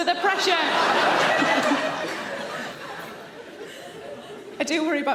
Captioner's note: audience laughing